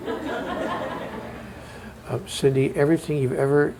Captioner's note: laughter